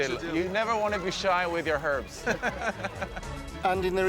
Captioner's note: both laughing